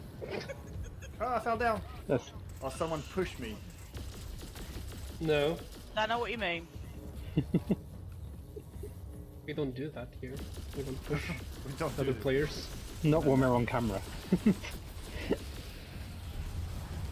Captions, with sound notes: Oh, I fell down! Or someone pushed me... No. Don't know what you mean. We don't do that here to other players. Not when they're on camera... [Laughter]